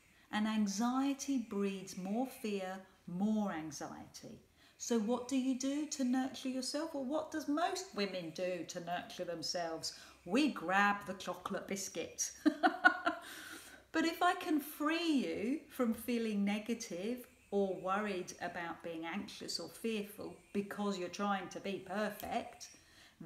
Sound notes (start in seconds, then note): 12.4 laughs